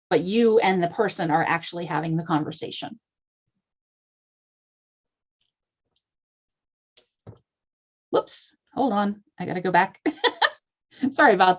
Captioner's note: laughter